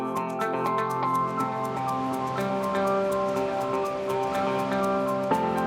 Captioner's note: upbeat music; leaves rustling